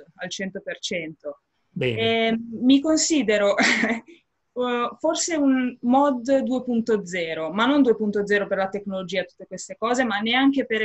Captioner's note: laughing